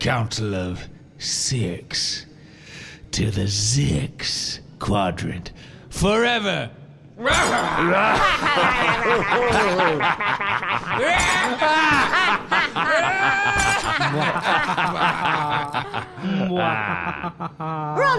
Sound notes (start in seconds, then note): 6.9 everyone cackles maniacally